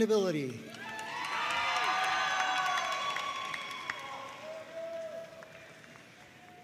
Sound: audience cheering and applauding

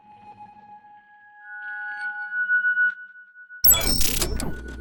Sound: electronic chirping

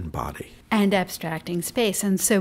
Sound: voiceover

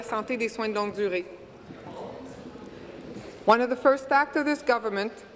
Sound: speaking in French

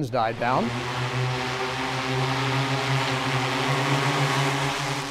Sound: plane engine buzzes

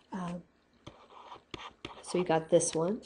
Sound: scribbling

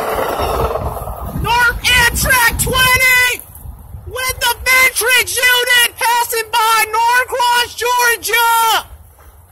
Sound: shouting

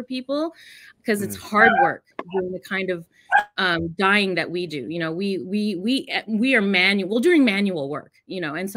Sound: dog barks

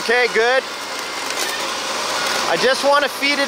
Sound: machine engine roaring

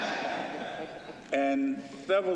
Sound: laughter

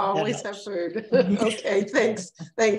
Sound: laughs

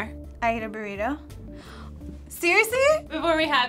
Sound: gasps

